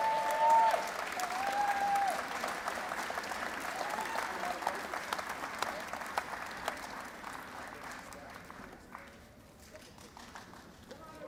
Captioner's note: cheers and Applause